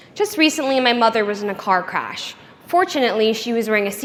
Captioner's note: none